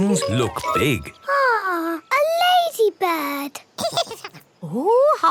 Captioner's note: giggles